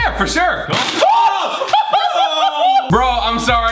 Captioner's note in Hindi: चीख